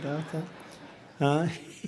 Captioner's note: laughter